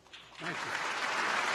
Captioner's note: applause